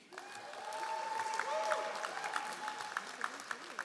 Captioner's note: all applauding